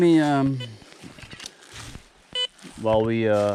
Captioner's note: metal detector beeps